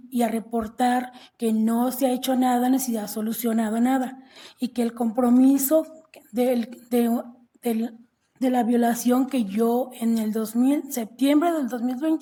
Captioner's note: speaking non-english language